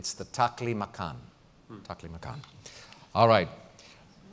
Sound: pause

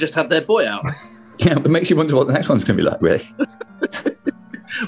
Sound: giggling

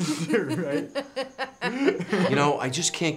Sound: kids laugh; laughs

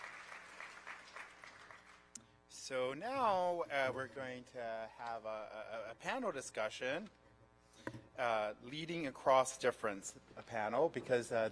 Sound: applause

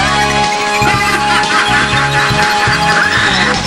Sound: laughs

